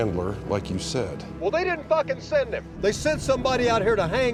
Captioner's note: on phone